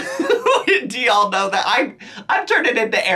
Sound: laughs

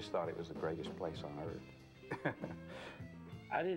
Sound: laughs

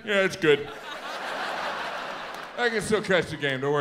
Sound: audience laughs

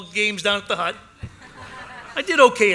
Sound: laughter

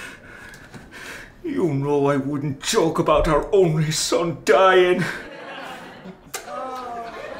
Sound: finger licking sound

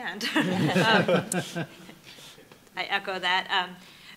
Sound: laughing

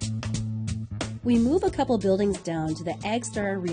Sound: jazzy music; voiceover

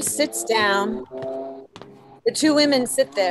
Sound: footsteps

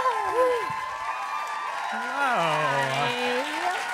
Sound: applause; laugh; applause

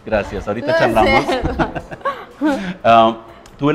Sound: laughs

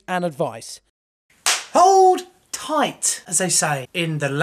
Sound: claps

